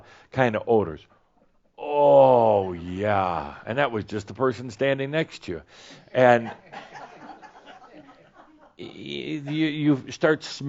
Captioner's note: some laughter